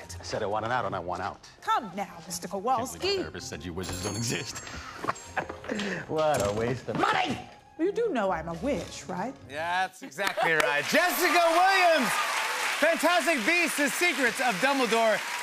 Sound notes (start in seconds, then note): 4.6 laughs